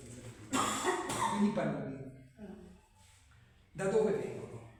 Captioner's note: clarifies throat